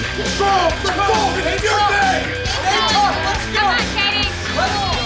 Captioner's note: rock music; crowd cheering